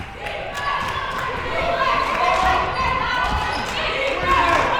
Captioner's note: people yelling